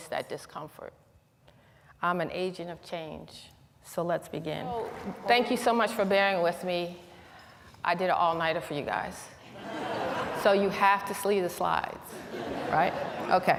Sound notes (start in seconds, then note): 9.4 laughter; 12.1 laughter